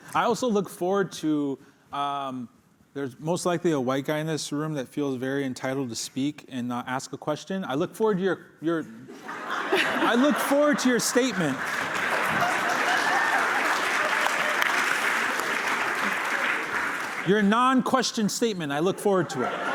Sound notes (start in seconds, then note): 9.1 laughter; 12.3 applause